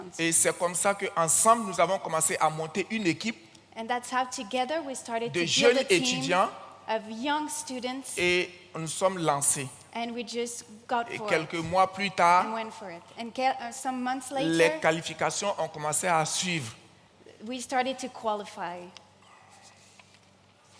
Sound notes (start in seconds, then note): 0.2 continues in French; 5.8 continues in French; 8.1 continues in French; 11.1 continues in French; 15.1 continues in French